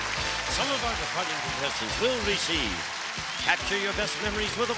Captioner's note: applause; theme music playing